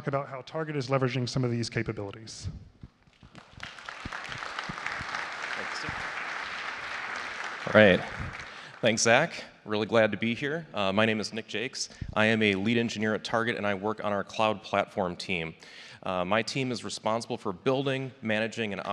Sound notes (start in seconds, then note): 3.1 applause